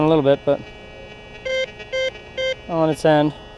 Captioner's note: detector beeps